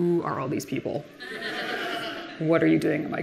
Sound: audience laughing

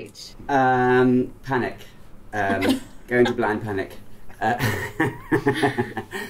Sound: laughs

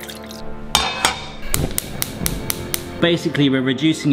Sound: tense music; cooker clicking

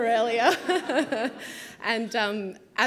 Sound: laughing

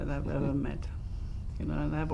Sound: laughs

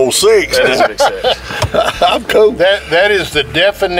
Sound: laughter

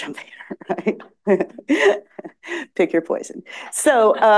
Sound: laughs

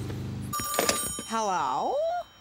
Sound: phone ringing

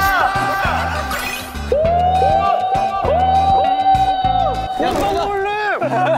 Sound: Shout echoing through Lake Cheongchoho

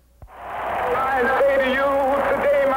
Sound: crowd cheering

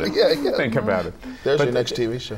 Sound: laughter

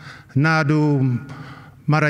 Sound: non-english speech

